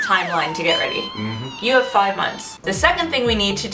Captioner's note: ahhhhh!!!!!